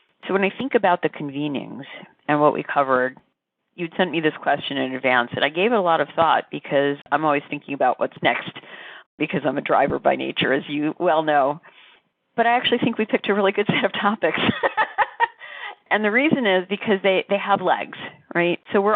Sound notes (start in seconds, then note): 14.3 laughs